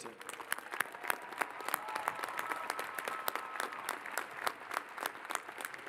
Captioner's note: cheers and applause